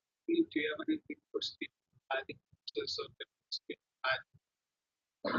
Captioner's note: man speaks through warped and choppy audio